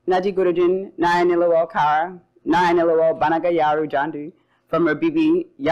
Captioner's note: speaking foreign language